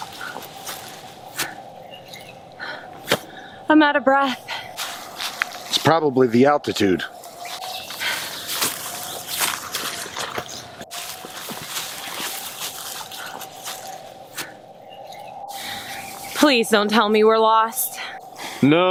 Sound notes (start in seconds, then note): 7.8 birds chirping; 7.8 wind howling